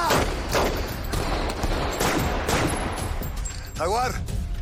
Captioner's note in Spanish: Disparos